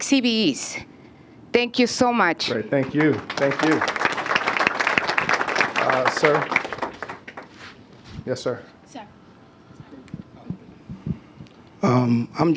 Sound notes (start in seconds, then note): 5.2 applause